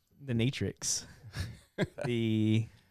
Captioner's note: laughing